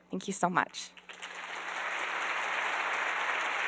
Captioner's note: applause